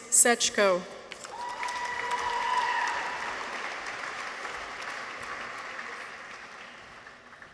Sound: people cheer; audience applauds

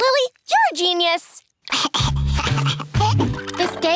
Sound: giggling

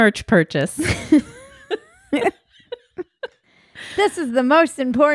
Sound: both laughing

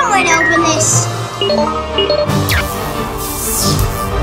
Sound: computer beeps

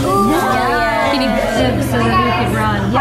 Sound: group chatter

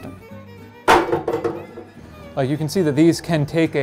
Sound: violin bangs

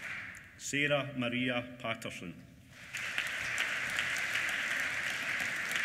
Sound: applause

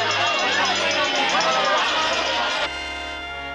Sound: everybody cheering

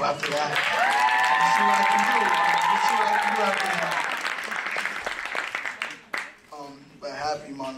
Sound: applause

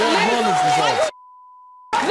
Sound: guests yell

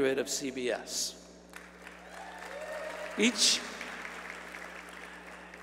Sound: applause

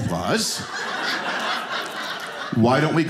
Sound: audience laughing

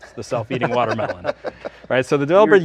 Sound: all laughing

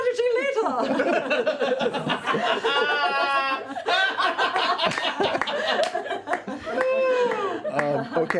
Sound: laughter

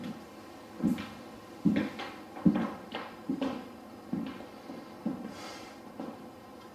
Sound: footsteps

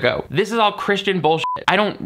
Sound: beep

